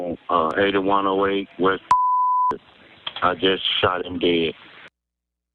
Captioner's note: beep